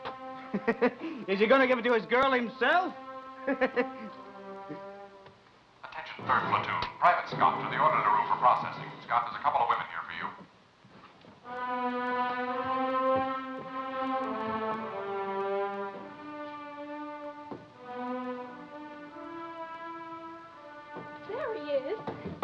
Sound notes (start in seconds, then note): 5.8 voice On Loudspeaker; 11.5 somber orchestra music